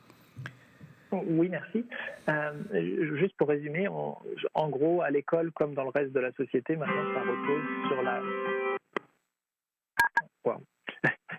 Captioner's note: speaking French